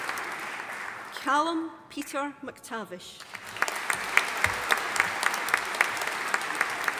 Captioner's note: audience applauding